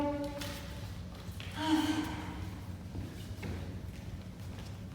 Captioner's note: sighs